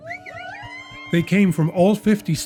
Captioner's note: cheering